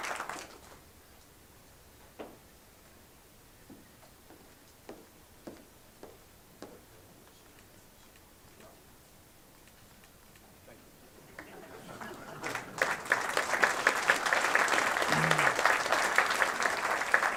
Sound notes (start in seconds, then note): 0.0 applause